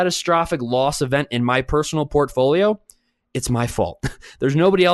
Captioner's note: chuckles